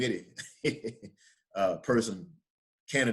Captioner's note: laughs